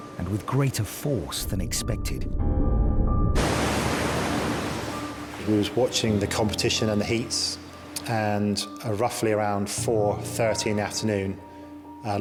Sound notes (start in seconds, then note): 3.3 waves crashing